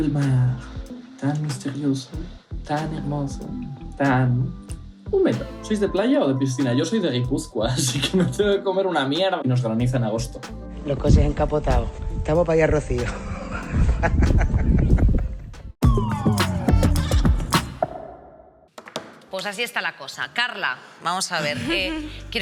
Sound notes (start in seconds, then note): 13.9 laughs